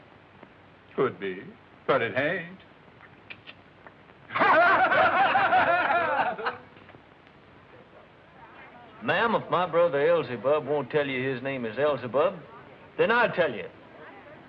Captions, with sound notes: -Could be, but it ain't. [laughter] -Ma'am, if my brother Elzebub won't tell you his name is Elzebub, then I'll tell you.